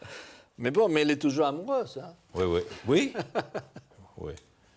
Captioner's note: laughs